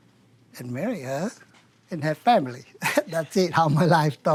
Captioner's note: chuckles